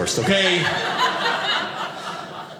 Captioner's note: audience laughing